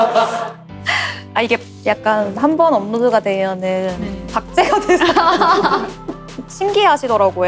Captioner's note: laugh